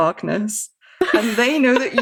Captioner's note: laughs